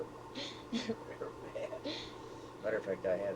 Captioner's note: both laugh